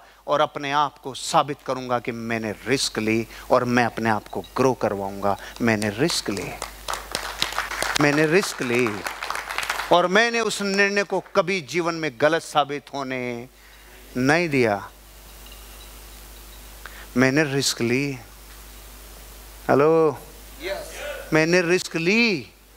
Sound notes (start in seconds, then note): 6.5 round of applauses